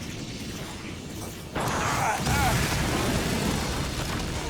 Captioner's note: zapping sounds